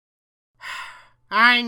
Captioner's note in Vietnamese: Thở dài